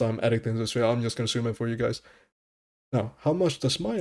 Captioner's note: deep breath